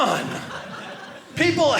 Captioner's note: audience laughing